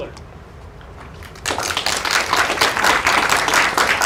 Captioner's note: applause